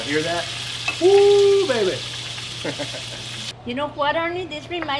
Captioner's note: chuckles